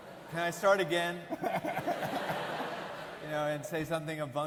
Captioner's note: audience laughing; laughs